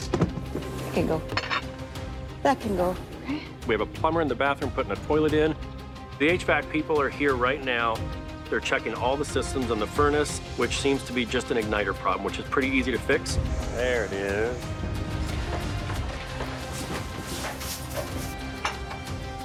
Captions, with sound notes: - It can go. That can go. - Okay. We have a plumber in the bathroom putting a toilet in. The HVAC people are here right now. They're checking all the systems in the furnace, which seems to be just an igniter problem, which is pretty easy to fix. There it is. (dramatic music) (objects clattering)